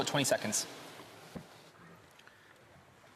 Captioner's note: speaking Indigenous Language